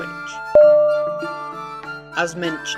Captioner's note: ding!!!